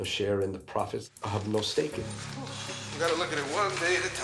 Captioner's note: sighs